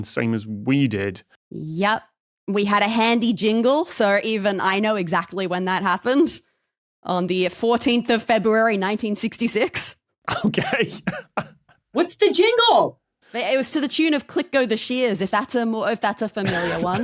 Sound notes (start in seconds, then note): 10.3 laughs